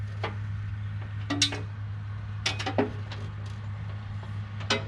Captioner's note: metal clanging